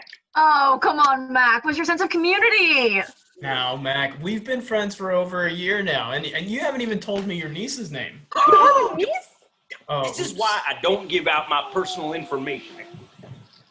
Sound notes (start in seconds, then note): 9.9 harper exclaims; 13.5 rustle as he covers up paper